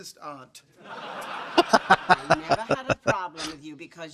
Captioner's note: laughing